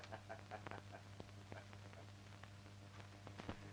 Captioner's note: laughing